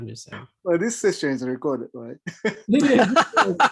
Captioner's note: bold Voice; laughing